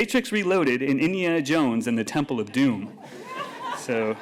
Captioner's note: laughter